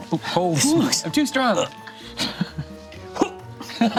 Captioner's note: laughs